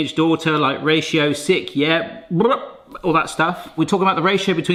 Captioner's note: lips buzzing